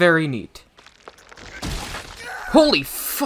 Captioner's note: Aizawa's arm gets snapped and he screams